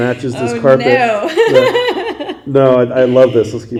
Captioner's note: laughing